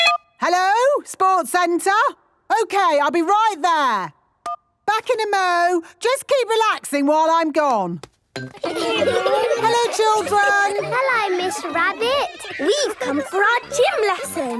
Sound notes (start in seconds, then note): 8.5 laughter